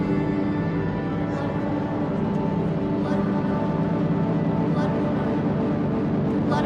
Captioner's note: chanting